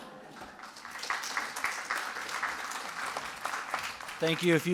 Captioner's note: audience applauding